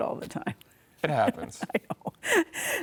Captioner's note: laughs